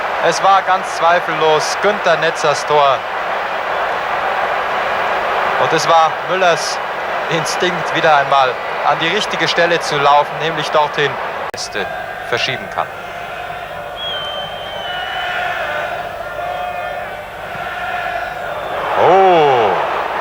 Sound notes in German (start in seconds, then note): 13.4 jubel